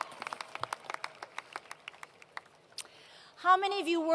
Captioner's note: applause